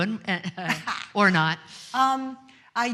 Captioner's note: laughs